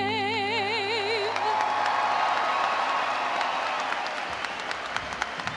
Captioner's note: audience applauding